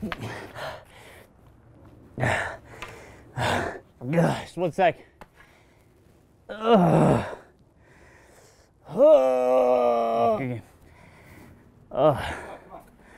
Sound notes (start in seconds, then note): 2.2 heavy panting; 6.5 massive groan